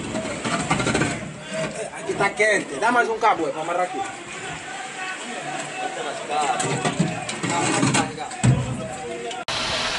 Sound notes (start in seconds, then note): 2.1 locals speaking Portuguese; 6.6 metal thumping; 9.8 torch flaring